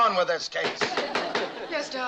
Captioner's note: gavel banging